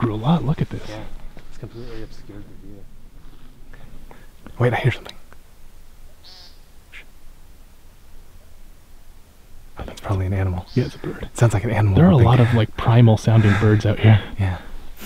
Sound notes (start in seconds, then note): 5.7 animal noise